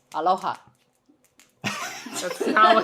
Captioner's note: laughing